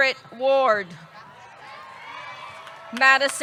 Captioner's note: audience cheering; audience clapping